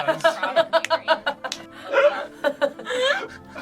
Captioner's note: group laughing